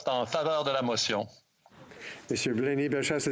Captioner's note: speaking French